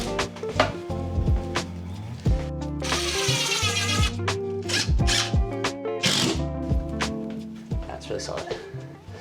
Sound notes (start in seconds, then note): 0.1 smooth music; 3.1 drill whirring